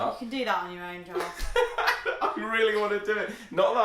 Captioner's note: laughs